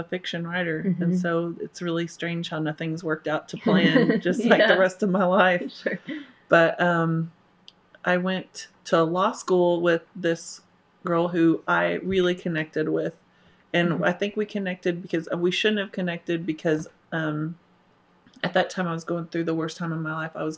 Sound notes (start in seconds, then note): 3.6 laughter